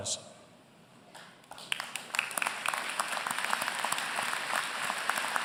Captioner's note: applause